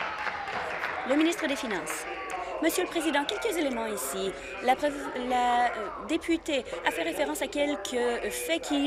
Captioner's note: applause